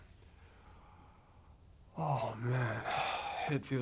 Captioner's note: none